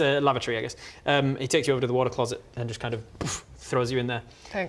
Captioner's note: boof